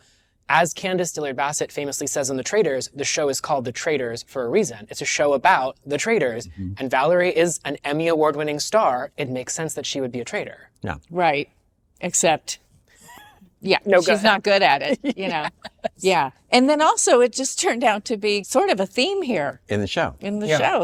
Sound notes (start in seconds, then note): 13.0 chuckles; 14.0 laughs